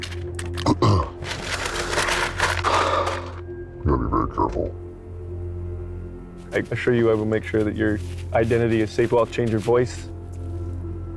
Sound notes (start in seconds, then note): 0.7 clears throat; 2.8 sighs